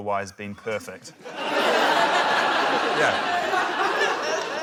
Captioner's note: laughter